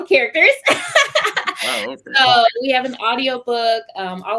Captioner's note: laughter